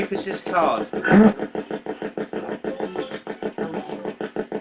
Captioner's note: ghost box buzzing